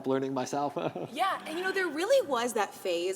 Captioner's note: giggling